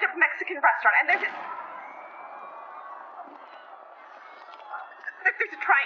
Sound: screams and an explosion in the distance

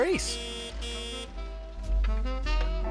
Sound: horn honking

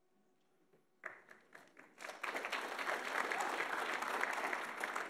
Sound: audience applauding

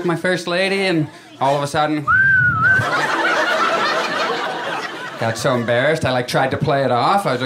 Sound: whistling

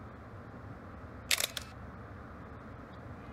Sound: camera flash

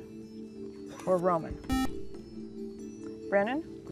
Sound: buzzer

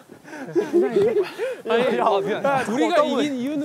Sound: panting

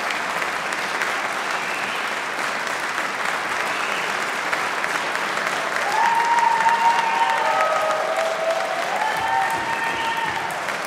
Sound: applause

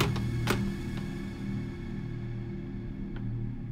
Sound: lock clicking

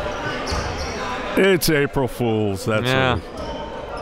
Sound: laughing

